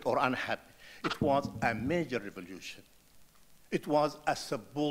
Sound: muted rattling

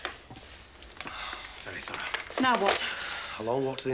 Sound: sighs

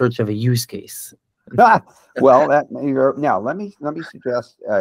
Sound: laughs

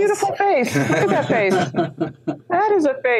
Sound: laugh

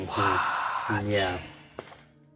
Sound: Omin sighs

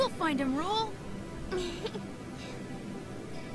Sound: laughing playfully

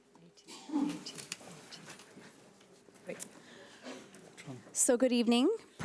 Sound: panel members whispering

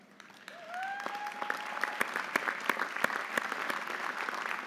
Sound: audience applauding

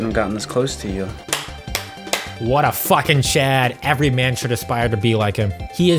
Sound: clapping

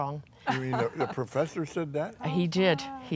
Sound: laughs

